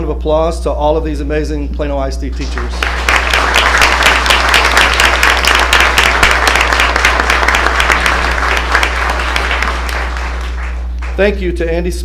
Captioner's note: applause